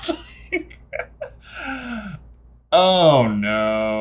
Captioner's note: laughs